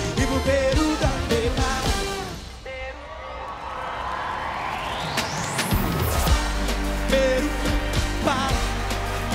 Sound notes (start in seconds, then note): 2.7 audience cheering; 2.7 background vocals